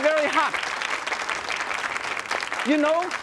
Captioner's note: audience clapping